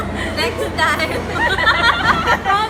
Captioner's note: guiltily